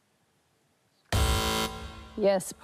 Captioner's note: buzz!